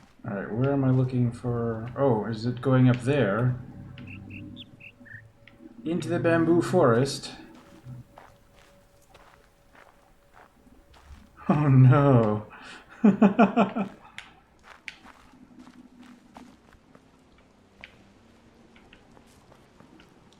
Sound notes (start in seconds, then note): 2.9 bird chirps ˧ ˧ ˥ ˧ ˩; 11.4 shuddering; 12.9 chuckles